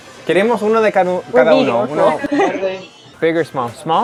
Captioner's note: speaking in Spanish